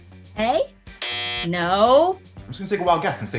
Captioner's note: buzzer